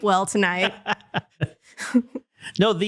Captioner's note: laughter